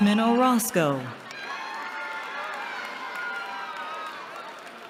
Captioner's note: cheering